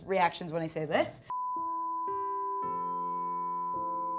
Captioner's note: beep